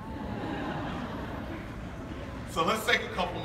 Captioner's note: audience laughing